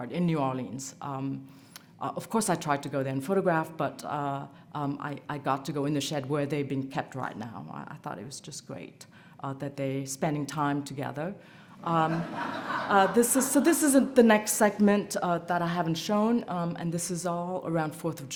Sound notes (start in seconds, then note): 11.9 laughter